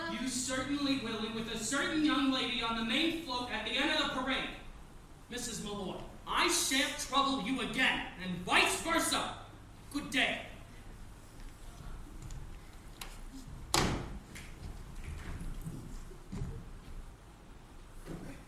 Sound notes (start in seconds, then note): 13.7 door slamming